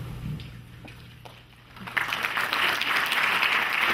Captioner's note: clapping